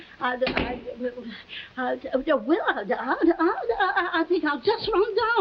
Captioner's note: Veta stammering